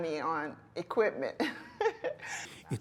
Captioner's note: laughter